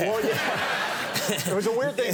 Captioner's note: audience laughing